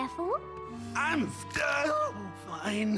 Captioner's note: groan